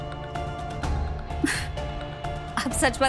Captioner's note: scoffs